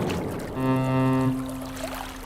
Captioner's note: ferry horn blows